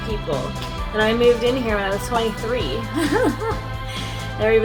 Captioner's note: laughs